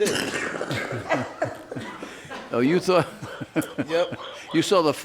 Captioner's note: woman laughs; man laughs